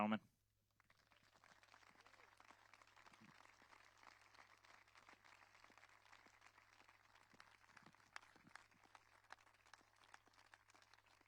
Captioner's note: applause